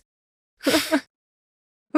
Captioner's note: laughs